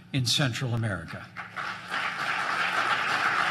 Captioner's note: applause